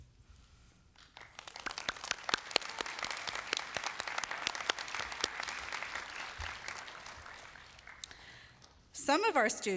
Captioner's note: applause